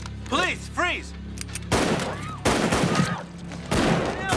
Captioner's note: patrons scream